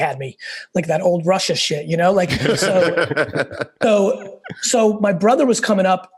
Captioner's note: laugh